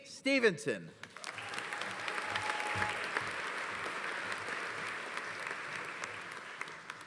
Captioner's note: audience applauding; audience cheering